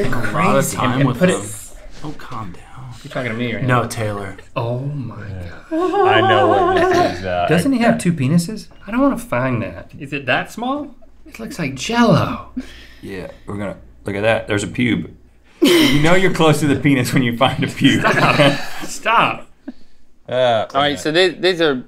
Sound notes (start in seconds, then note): 5.6 nervous laughter; 15.6 laughter